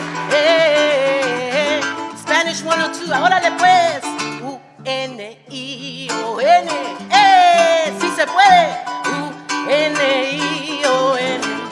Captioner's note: applause